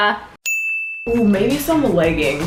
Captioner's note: bell chimes